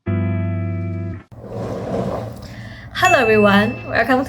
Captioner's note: sound of luggage rolling…